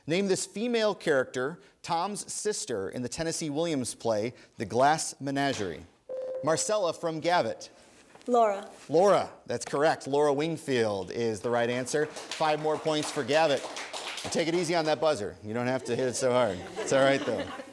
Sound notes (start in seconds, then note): 6.1 ding; 11.6 applause